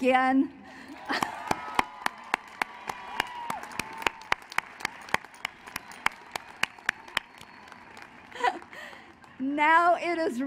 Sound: applause

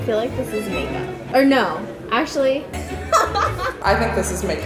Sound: laughs

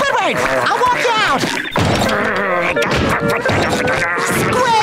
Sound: grumbling

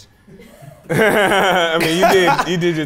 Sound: laughs

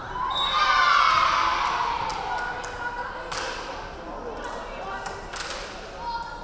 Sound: crowd cheering; referee whistling

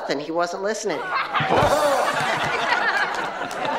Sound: all laughs

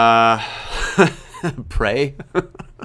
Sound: laughs

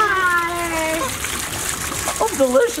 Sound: water sloshing

